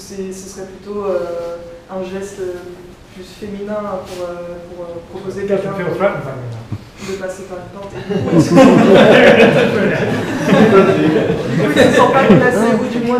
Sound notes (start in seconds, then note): 7.9 laughter